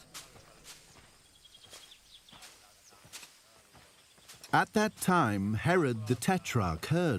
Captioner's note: birds chirping